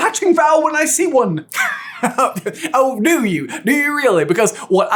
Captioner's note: guffaws